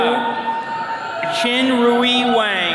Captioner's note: attendees cheering